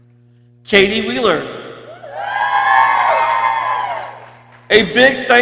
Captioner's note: people cheering